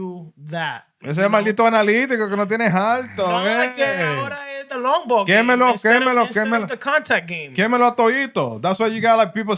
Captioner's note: speaking Spanish